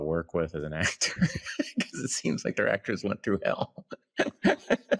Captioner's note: laughs